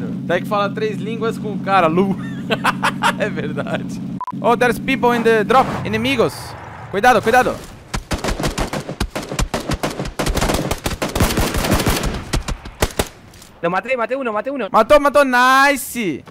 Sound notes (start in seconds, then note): 2.1 laugh; 7.9 shooting